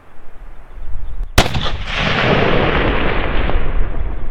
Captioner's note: fires shot